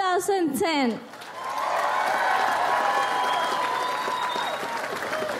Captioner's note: audience applauds